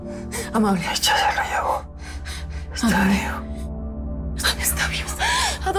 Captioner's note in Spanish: Susurra